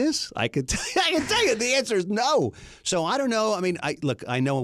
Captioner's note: laughs